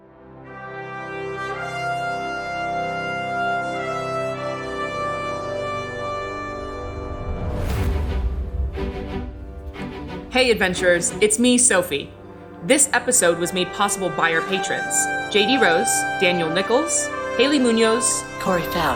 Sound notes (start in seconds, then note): none